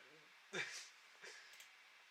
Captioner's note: chuckles